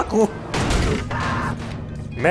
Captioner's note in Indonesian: Keledai teriak